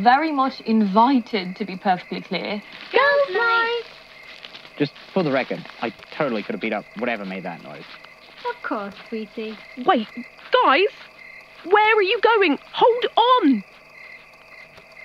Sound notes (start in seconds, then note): 2.5 sound of many people getting up and leaving